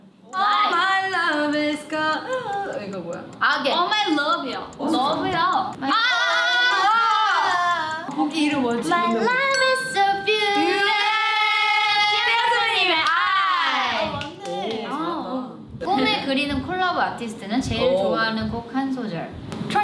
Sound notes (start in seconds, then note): 0.3 timer ticking; 2.8 speaking in Korean; 4.4 speaking Korean; 5.0 speaking in Korean; 9.2 bell rings; 12.3 speaking in Korean